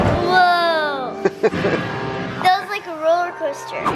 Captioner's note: laughs